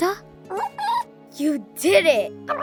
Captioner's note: kinkajou chirps